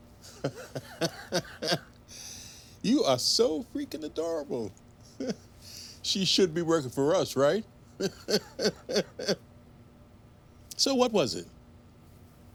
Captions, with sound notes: [Ed laughs] You are so freaking adorable. She should be working for us, right? [laughs] So what was it?